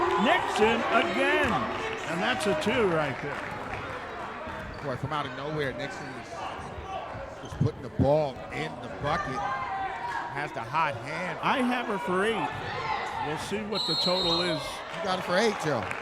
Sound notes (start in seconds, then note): 13.6 referee whistling